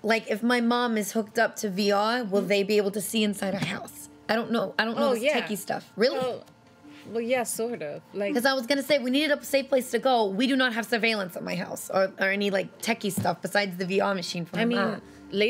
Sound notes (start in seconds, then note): none